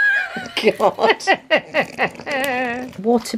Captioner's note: laughs